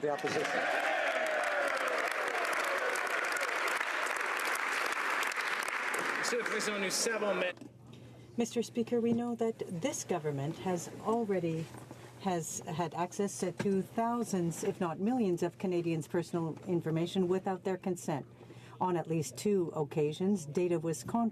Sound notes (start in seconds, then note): 2.1 applause; 5.1 applause